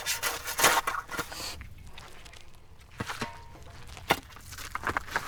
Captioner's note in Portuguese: sons da pá na terra